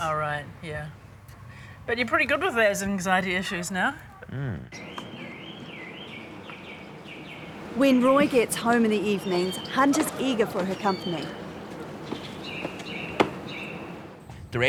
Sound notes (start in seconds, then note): 5.0 birds singing